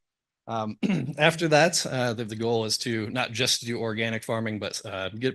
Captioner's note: cough